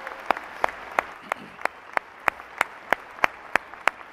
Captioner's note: applause